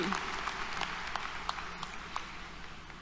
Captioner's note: applause